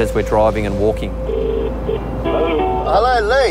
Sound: phone rings

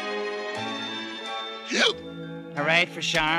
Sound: hiccup

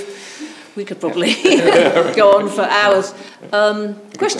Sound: laughs; all chuckle

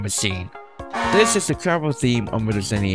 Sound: honk

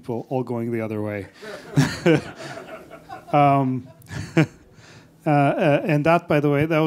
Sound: laughter

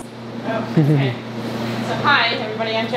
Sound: cameraman laughing

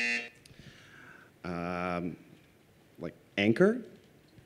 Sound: buzzer

